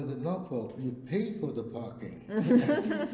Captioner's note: all laugh